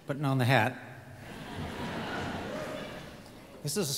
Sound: audience laughs

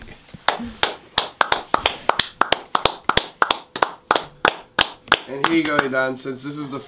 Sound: applause

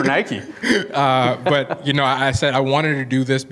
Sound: laughing

